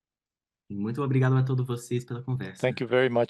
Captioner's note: speaking in Portuguese